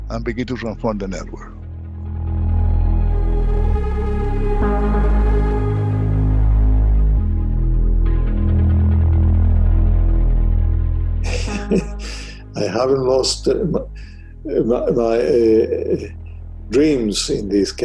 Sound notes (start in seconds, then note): 3.0 slow music; 11.2 laughs